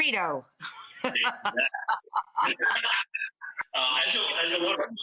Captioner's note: woman laughing